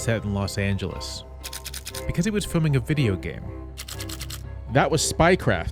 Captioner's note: camera shutter sounds